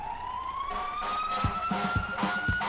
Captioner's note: police sirens